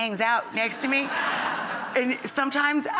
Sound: audience laughing

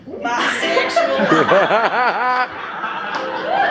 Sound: laughter

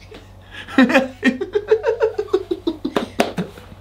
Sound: laughing

